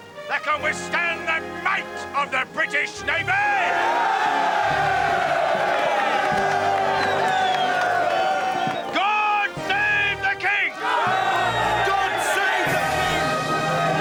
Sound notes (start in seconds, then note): 4.0 all cheer